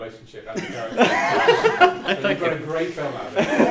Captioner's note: all laugh